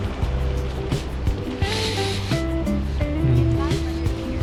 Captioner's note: wind Blowing